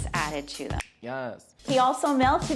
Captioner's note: snaps